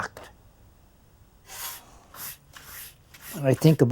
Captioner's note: swishing of broom